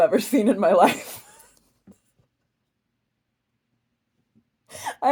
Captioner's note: giggling, loses it a little